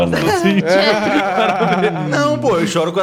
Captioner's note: laughs